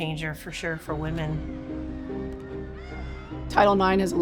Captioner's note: crowd cheering